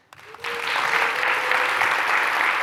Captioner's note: applause